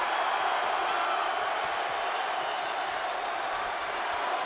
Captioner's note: audience cheering